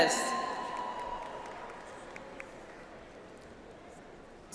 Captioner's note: audience applauds